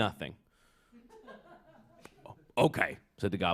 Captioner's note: laughter